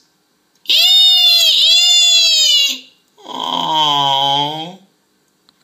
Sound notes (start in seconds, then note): 0.6 all squealing in delight; 3.2 groans